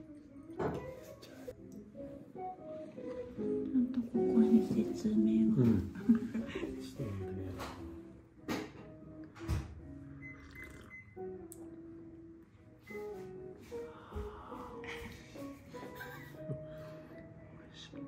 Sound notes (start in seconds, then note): 15.7 laughs